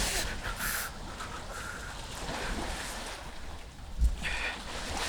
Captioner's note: Nolan breathes shakily